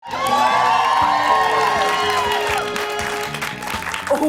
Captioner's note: cheers and applause